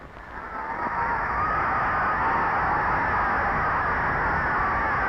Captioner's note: crowd cheering